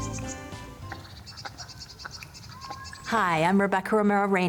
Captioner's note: birds vocalizing